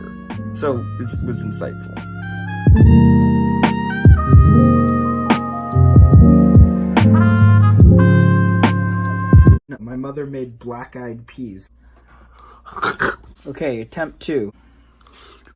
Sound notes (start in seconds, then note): 12.5 gags